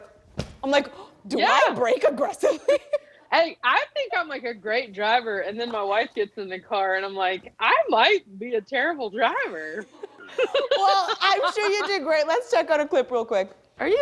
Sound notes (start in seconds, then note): 2.2 laughing; 9.5 laughing